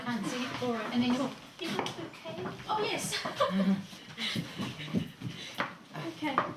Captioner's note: laughing